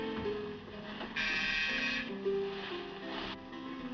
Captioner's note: buzzes